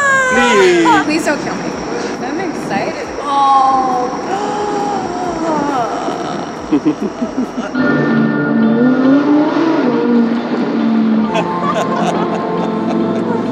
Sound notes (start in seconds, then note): 8.1 engine roaring; 11.2 laughter